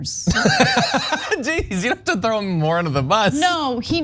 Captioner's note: laugh